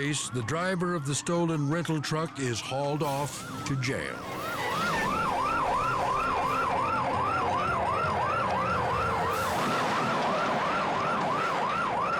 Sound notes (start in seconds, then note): 4.3 sirens wail; 9.2 crash roars